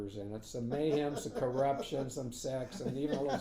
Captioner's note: laughing